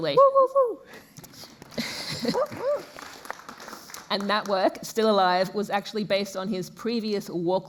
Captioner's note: applause